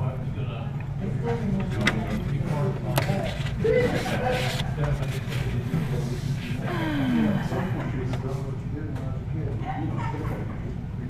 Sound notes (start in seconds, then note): 6.6 sigh